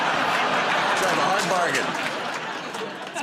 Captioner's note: laughter